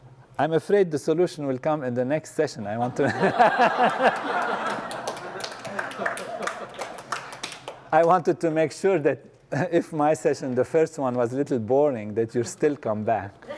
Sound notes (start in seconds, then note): 4.9 laugh